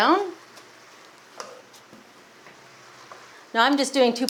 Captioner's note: pan simmers